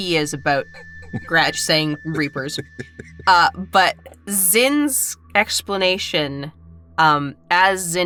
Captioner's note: chuckles